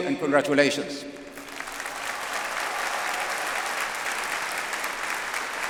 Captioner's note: audience applauds